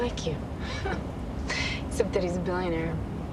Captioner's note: chuckles